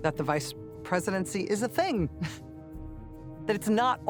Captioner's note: chuckles